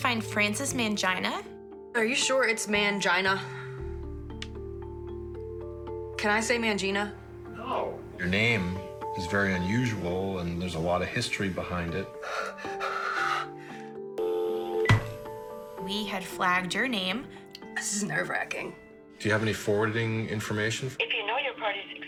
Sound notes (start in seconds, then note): 12.1 exasperated breathing; 14.2 dial tone